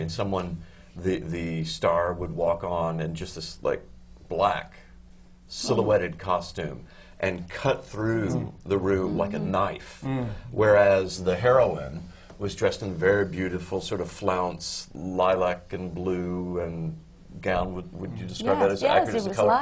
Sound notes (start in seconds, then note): 9.8 murmurs of appreciation from the panel